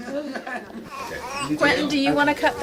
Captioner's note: all laughing; baby crying